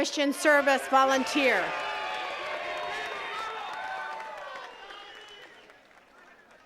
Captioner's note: attendees cheering and clapping